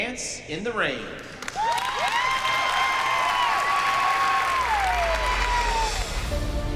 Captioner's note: cheering, whooping